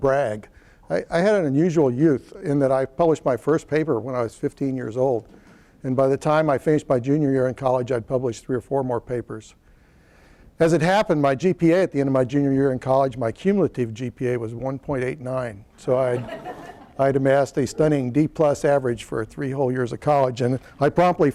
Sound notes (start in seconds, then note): 16.0 laughter